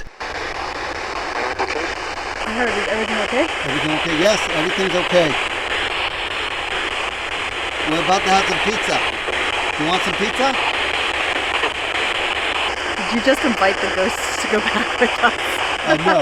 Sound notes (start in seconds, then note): 5.7 electronic static hissing; 11.5 electronic static hissing; 15.9 group laughs